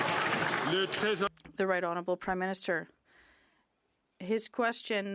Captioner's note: some Applause